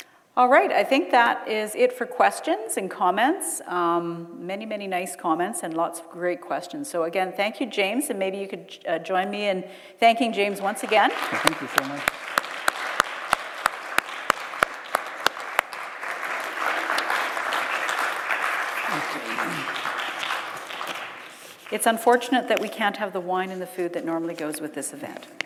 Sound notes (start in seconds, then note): 15.2 applause